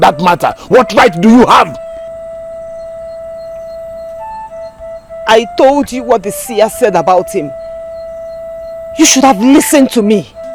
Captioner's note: bell